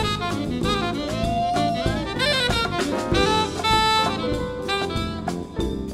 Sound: band members hooting

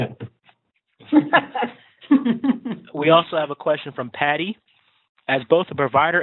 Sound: laughter

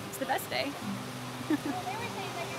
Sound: laughs

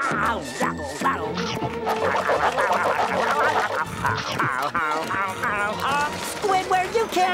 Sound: laughing; scarfing

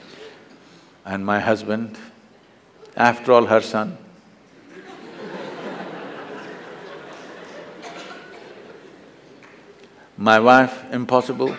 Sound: laughter

